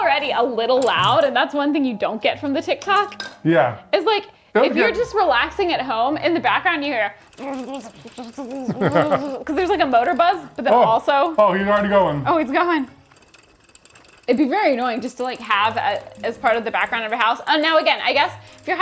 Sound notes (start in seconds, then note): 8.8 buzzes